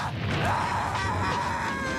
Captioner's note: screams